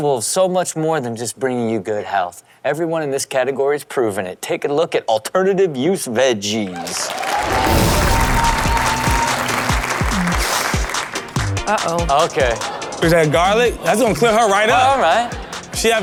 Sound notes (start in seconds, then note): 6.7 audience cheers; 7.5 upbeat music